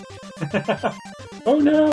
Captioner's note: chuckles